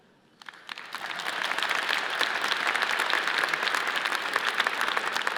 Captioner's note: audience cheers and applauds